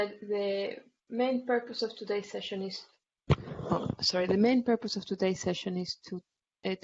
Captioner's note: mic noise